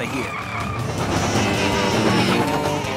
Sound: baaing

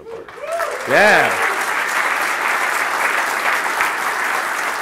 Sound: applause

